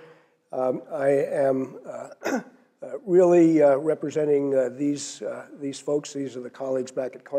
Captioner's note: cough